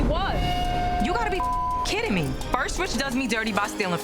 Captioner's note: beep